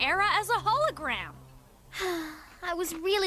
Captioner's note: sigh